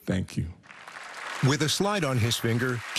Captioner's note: cheering and applause